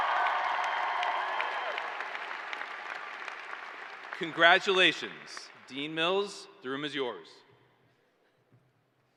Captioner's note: cheers and applause